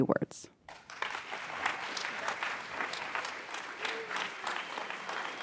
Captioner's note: audience applauds